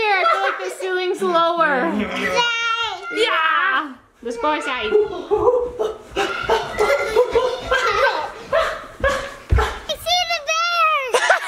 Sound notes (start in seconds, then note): 4.9 giggles; 11.0 laughs